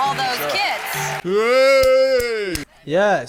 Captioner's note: cheering